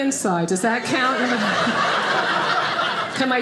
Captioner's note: audience laughing